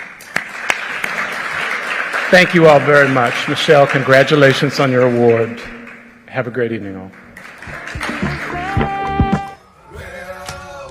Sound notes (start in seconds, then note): 0.0 applause